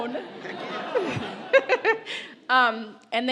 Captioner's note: audience laughs